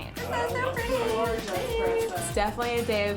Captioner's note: chatting excitedly